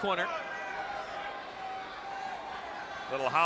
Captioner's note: spectators cheering